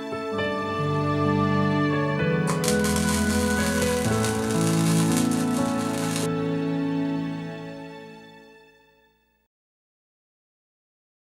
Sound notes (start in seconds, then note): 0.0 slow piano plays; 2.5 static effect